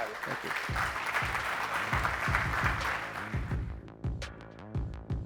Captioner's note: audience clapping; upbeat music